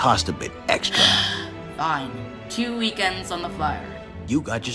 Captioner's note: groans